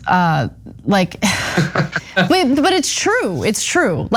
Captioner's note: laugh